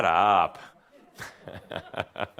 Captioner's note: chuckles